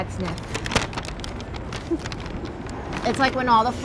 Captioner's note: bag crinkling